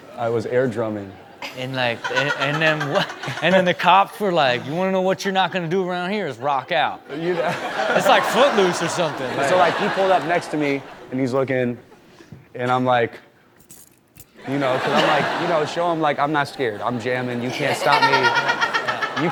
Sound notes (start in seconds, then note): 1.2 laughing; 7.1 audience laughs; 14.4 audience laughs